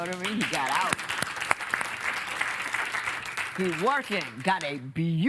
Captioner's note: applause